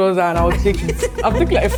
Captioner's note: laughs